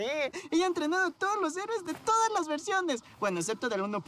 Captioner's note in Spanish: none